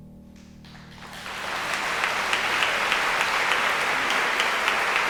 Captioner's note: audience applauding